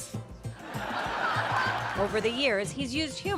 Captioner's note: audience laughing